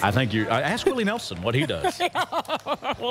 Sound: laughter

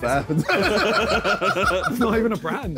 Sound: all laughing

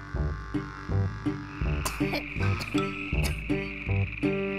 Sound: sounds of Yoshi coughing; more coughing

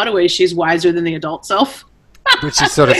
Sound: laughs

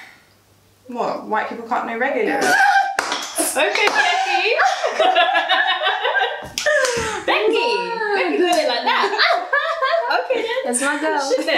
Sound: they all laugh

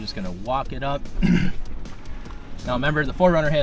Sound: clears throat

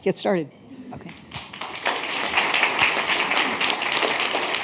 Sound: applause

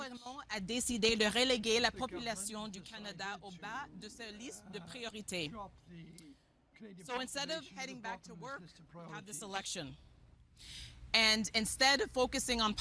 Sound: speaking French

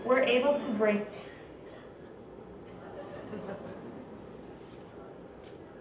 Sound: laughing

